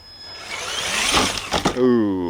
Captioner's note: engine roaring